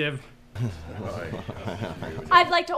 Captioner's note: people grumbling